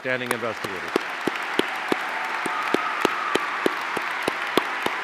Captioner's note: audience applauding